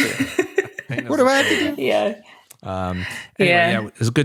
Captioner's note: laughter